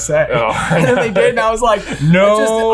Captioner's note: chuckling